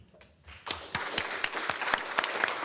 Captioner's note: applause